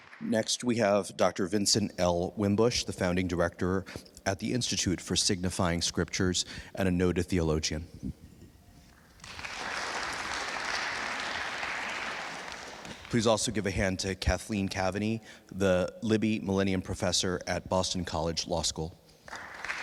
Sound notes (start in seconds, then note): 9.0 attendees applauding